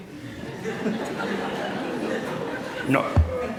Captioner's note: laughter